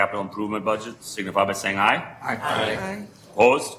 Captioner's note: multiple voices